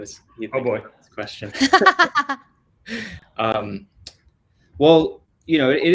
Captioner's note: laughs